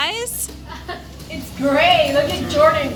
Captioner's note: laughs